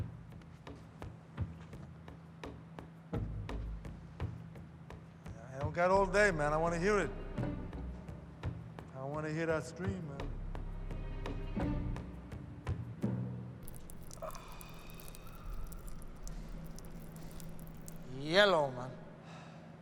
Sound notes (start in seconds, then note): 13.6 water trickles; 13.7 sighs